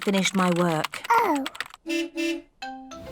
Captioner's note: car horn beeps